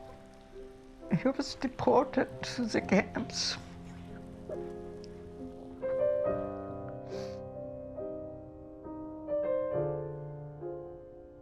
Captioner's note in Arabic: بكاء